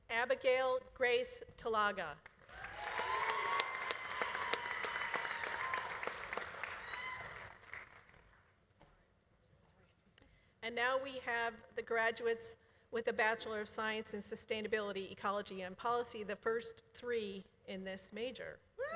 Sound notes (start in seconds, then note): 2.4 audience applauding; 2.5 audience cheering